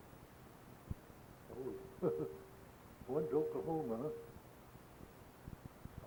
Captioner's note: chuckles